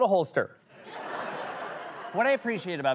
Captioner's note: laughter